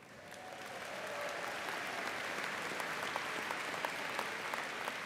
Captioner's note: audience applauding